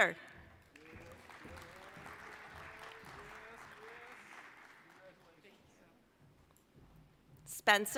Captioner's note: applause